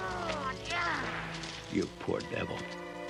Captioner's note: whip cracks